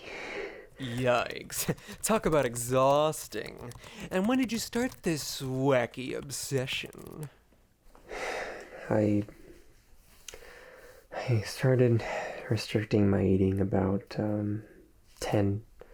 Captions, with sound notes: - Yikes, talk about exhausting. And when did you start this wacky obsession? (Kyle exhales) - I started restricting my eating about 10,